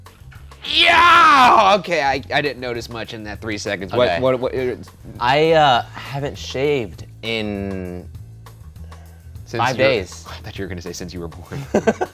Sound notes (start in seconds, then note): 1.3 shouting; 11.6 laughing